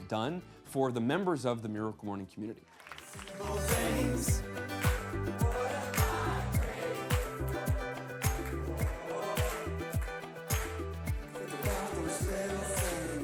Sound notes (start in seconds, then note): 3.2 upbeat music; 3.2 clapping